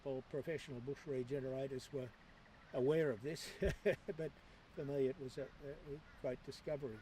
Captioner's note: laughs